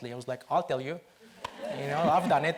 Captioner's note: audience laughs